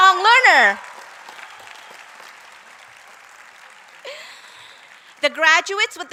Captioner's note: applause